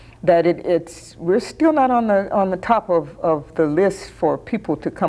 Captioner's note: none